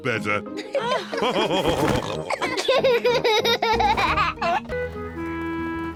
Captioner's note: all laughing; laughs